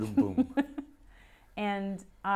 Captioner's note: laughs